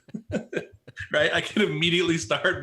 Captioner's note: laughs